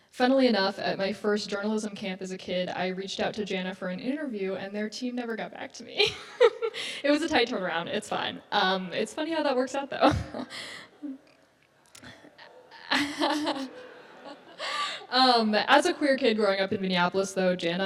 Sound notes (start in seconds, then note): 6.0 laughs; 12.0 audience laughs